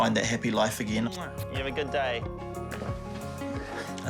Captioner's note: smooches